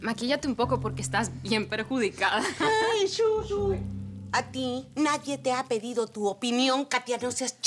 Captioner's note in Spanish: Ríe